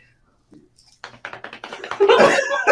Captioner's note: smacks hands; group laughs